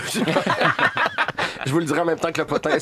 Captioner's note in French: rires